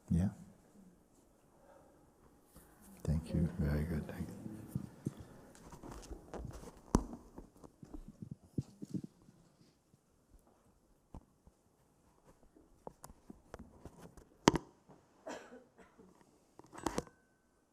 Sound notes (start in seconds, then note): 6.2 silence